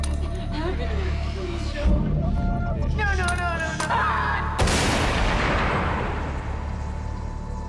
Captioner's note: sobbing